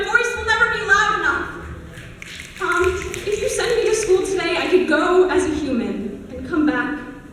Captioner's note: snaps